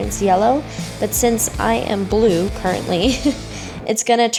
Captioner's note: laughs